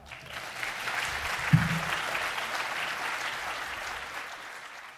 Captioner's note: audience applauding